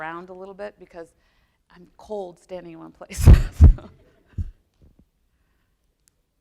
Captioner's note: laughs